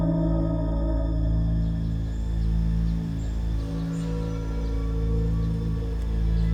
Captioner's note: birds chirping